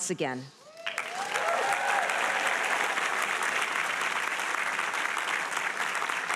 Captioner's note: audience applauding and cheering